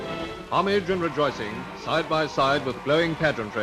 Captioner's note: voiceover